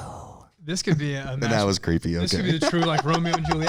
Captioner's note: laughs